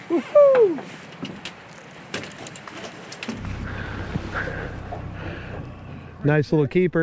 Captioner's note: whooping